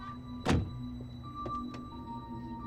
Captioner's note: suspenseful music; car door thuds; suspenseful music